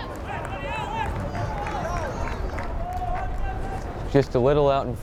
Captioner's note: players yelling